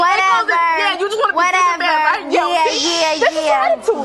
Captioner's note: overlapping chatter